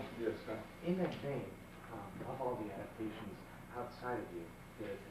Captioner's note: male Voice